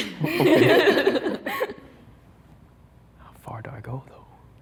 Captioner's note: group laughs